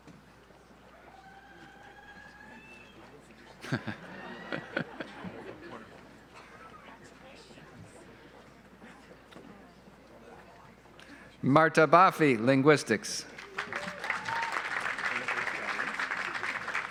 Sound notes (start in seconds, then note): 3.6 laughs; 13.3 audience applauds